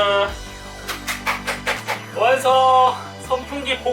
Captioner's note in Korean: 짝짝짝